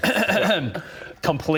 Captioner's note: ahem